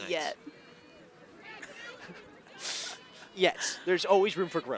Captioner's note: laughter